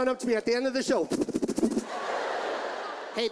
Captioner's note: makes fluttering noises; audience laughs